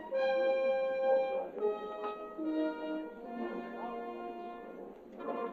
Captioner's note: indistinct chattering